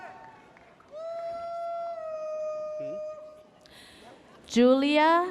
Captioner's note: audience member whooping